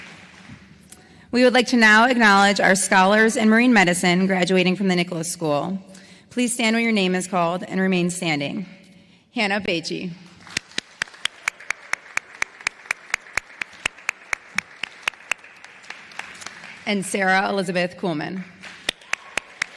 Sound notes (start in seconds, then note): 10.3 applause